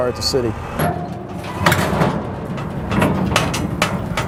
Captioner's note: metal clanging